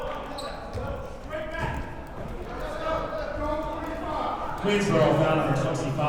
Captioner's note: players murmuring